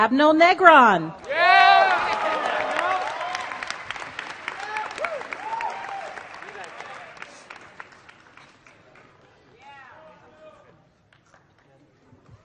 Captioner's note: applause